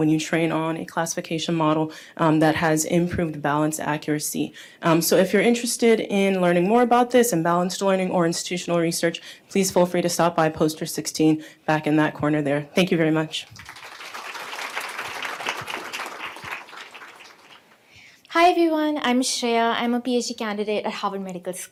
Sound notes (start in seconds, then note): 13.4 applause